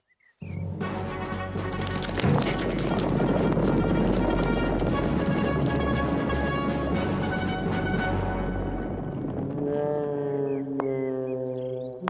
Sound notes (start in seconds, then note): 2.5 thundering hooves